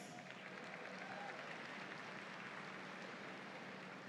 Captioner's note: audience applauds